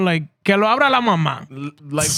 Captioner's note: speaking In Foreign Language